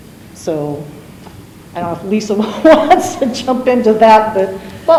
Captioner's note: chuckles